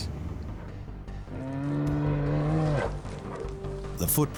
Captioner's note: dinosaur trumpeting